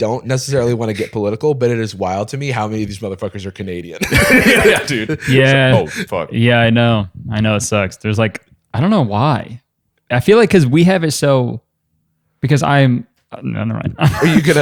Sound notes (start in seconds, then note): 4.0 laughter